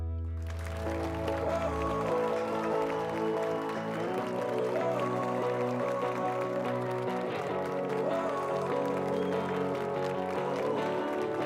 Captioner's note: applause and cheers